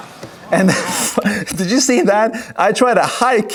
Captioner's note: laughs